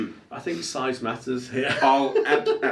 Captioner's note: laughs